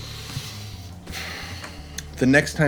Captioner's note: exhaling